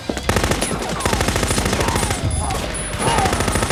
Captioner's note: guns firing